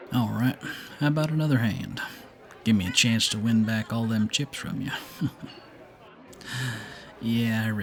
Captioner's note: chuckles